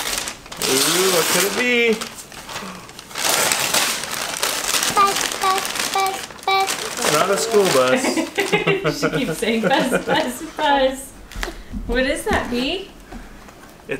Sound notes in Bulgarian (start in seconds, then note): 0.0 разкъсване на хартия; 8.4 смее се